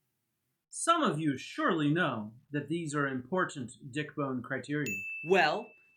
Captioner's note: ding sound